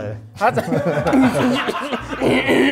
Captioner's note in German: Gelächter